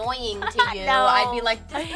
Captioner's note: laughing